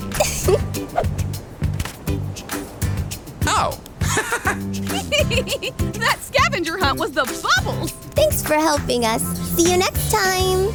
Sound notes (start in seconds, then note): 4.8 laughs; 10.5 pop music